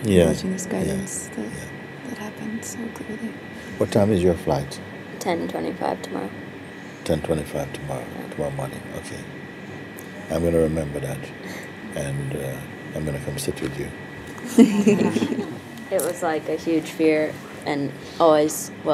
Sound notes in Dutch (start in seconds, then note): 14.4 gelach